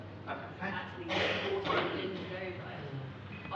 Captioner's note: audience cough